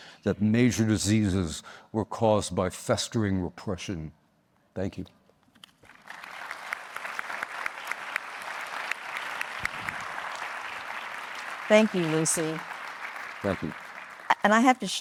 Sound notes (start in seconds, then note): 5.8 audience applauding